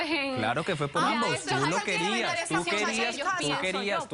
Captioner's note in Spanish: Hablan al unísono